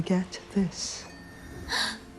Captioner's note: gasps